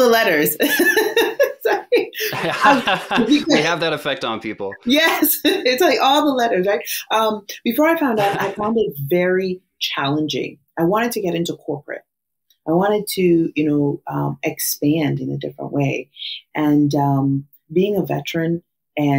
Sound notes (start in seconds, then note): 2.3 laughs